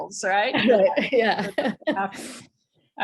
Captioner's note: laughs